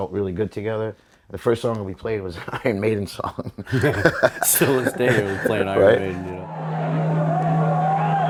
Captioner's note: laughter